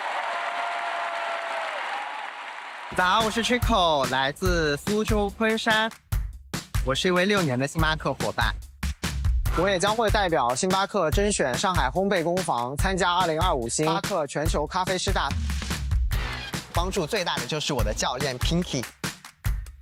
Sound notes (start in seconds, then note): 0.0 cheers and applause; 10.7 speaking chinese